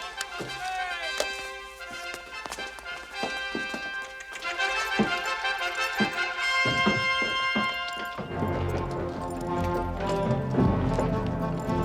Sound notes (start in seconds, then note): 0.1 regal fanfare; 7.0 horse hooves clip-clopping